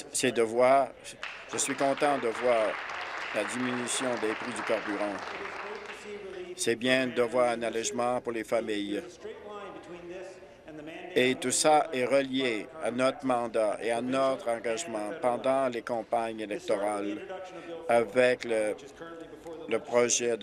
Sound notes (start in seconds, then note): 4.3 applause